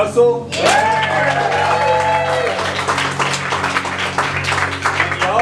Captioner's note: cheering